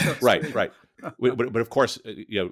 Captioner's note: laughing